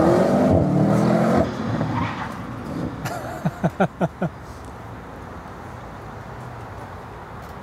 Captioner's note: laughter